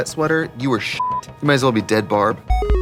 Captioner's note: beeping